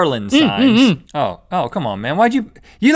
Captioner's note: Link grunts excitedly